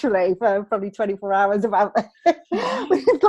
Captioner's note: laughs